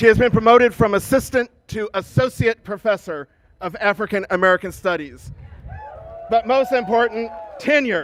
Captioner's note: cheers and applause